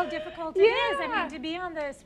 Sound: laughs

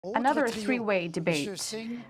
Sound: speaking French

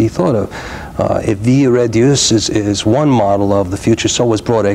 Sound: speaking in foreign language

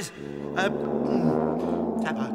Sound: gulp

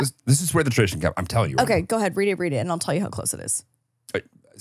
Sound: laughs

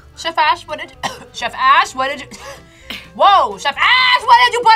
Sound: coughs

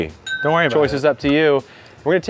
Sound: clinking glass

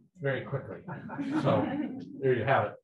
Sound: people laughing

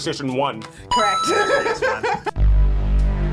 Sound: laughs; tense music

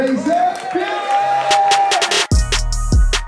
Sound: group cheering; lively hiphop music

